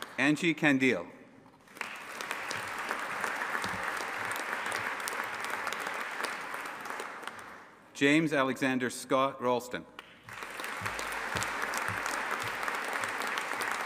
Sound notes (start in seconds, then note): 1.6 audience applauding; 10.1 audience applauding